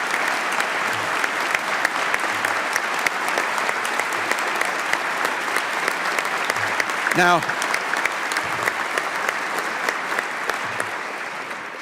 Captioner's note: applause